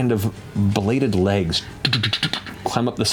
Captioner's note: skittering